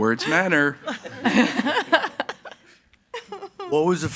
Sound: crowd laughing

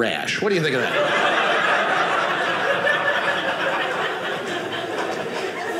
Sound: audience laughing

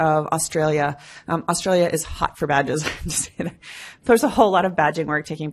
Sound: laughs

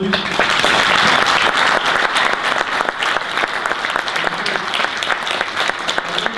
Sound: audience applause

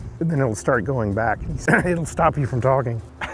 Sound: coughs

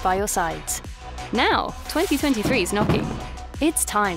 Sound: fireworks boom

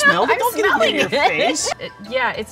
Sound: laughs

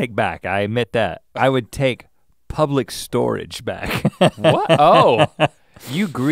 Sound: chuckles

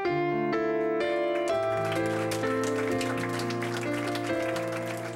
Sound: applause

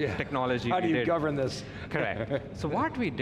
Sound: giggles

